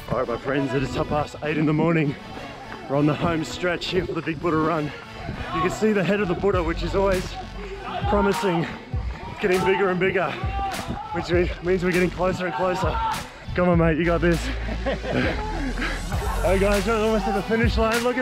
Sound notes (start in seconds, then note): 14.3 laughs